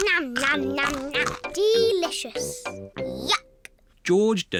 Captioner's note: crunches